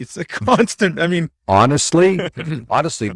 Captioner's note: laughs